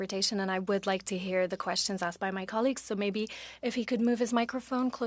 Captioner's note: speaking French